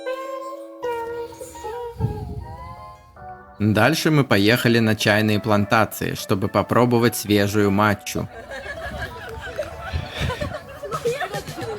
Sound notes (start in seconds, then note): 8.0 laughs